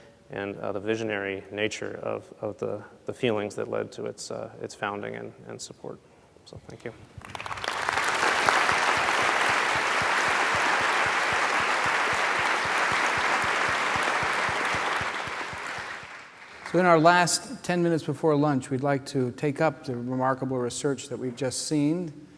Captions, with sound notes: and the visionary nature of the feelings that led to its founding and support. So thank you. [ Applause ] >> So in our last 10 minutes before lunch we'd like to take up the remarkable research that we've just seen